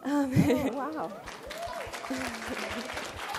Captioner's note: applause